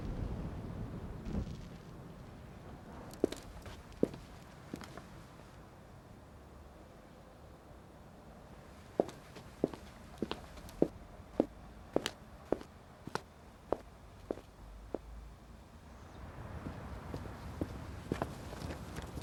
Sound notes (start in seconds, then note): 3.1 steps pattering